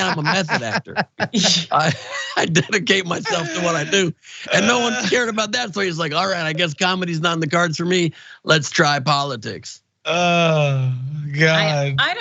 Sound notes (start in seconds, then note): 0.0 laugh